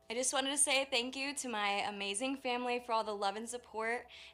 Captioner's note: speaking in native language